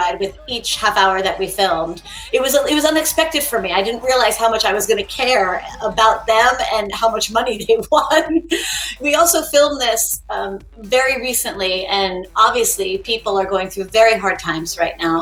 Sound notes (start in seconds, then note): 8.2 laughing